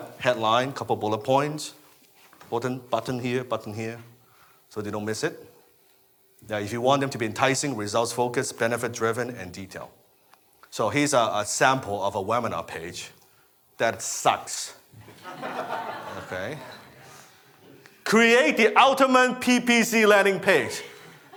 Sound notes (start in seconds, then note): 15.1 laughing